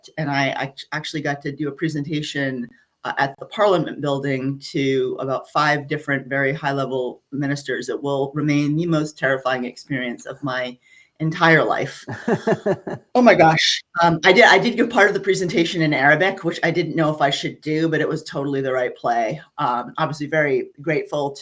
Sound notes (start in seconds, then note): 11.9 laughing